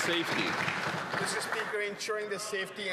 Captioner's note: some Applause